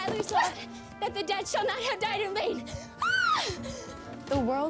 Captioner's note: yells